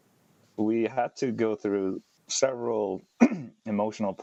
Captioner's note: clears throat